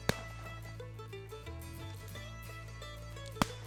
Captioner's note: loud gunshot